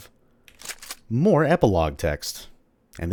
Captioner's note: shick-shick